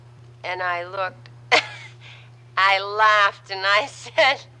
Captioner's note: laughs